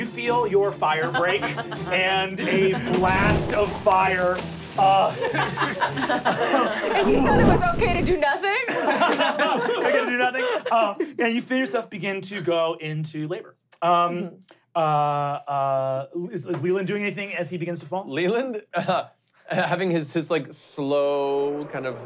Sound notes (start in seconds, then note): 5.1 laughing